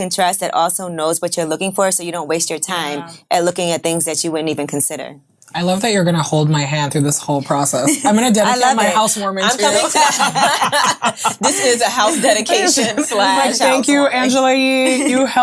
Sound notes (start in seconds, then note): 9.4 ladies laughing